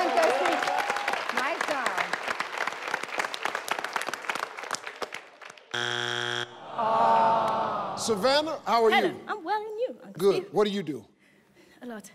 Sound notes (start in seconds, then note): 6.3 people gasping